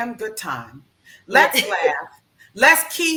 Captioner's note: laughs